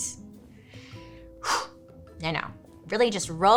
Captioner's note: breathing deeply